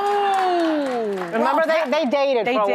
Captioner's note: audience applauding